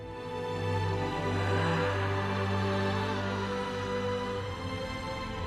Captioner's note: screams